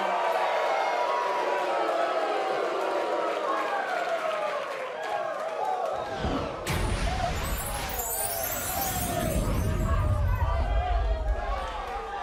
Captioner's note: cheers & boos